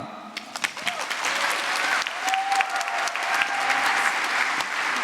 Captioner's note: applause